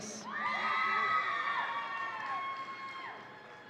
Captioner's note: audience cheering